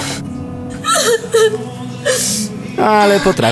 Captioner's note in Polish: płacz